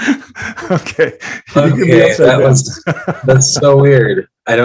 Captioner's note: laughing